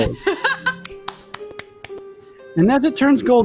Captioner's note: laughs and applauds